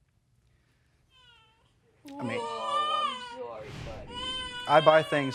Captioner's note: baby crying